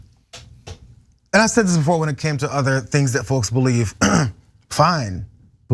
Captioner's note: cough